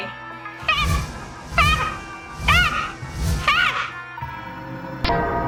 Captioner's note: cackling; wings flapping; theme music playing